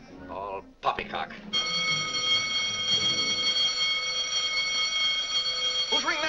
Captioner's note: alarm bell rings